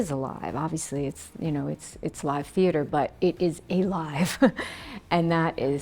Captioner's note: laughs